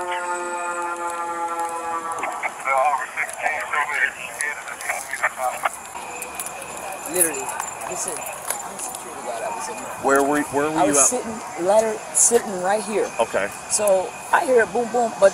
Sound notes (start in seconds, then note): 0.1 siren wailing; 2.8 radio chatter in background